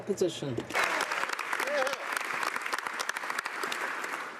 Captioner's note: speaking French; some Applause